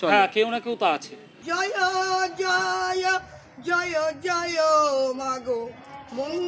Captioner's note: chanting